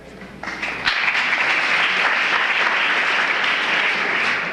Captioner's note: applause